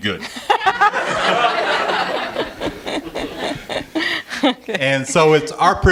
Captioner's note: laughter